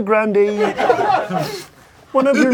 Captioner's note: crowd laughing